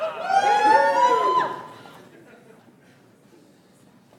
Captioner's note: audience applauds